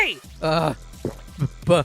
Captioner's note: gulps